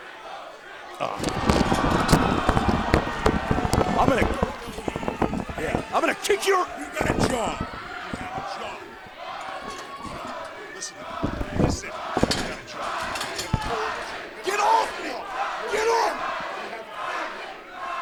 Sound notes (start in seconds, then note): 0.0 cheers; 8.9 fans chanting